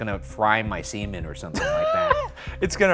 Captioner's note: laughs